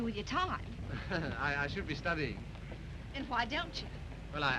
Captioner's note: chuckles